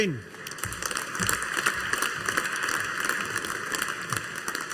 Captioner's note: audience applauding